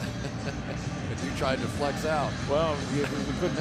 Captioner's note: laughs